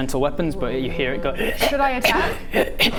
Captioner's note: a sad sputtering and coughing; smokers lung cough